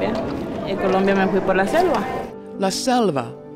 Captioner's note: lady continues speaking Spanish